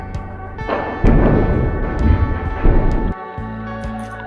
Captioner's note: explosions nearby